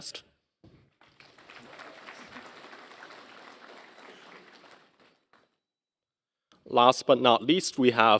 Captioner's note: applause